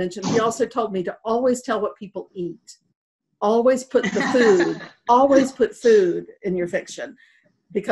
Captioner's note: laughter